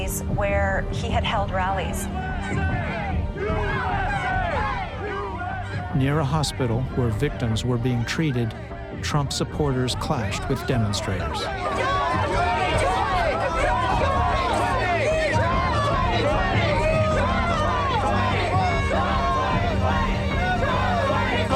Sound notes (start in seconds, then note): 2.6 crowd chanting "U.S.A."; 12.6 shouting; 14.3 crowd chanting "Trump 2020"